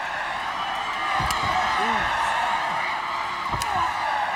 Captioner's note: belt smacks; belt smacks continues